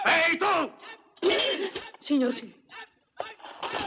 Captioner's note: gasps